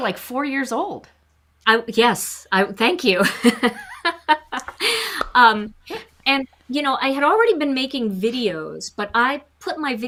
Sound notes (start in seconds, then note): 3.3 chuckles